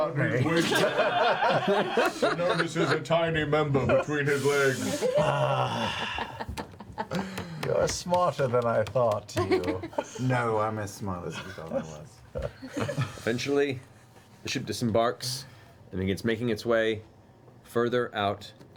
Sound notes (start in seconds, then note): 0.4 all laugh